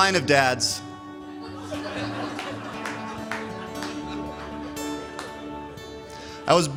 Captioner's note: laughter